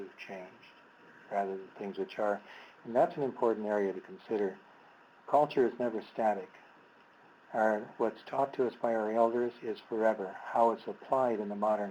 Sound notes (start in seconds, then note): none